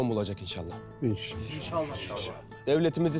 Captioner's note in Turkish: Hep bir ağızdan